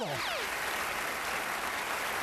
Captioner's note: applause